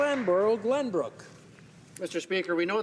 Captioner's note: some Applause